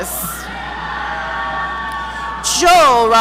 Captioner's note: audience cheering